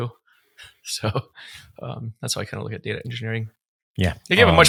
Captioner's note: chuckling